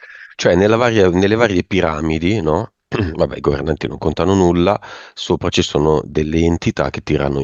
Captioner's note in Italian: schiarire la voce